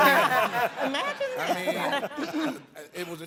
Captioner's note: all laughing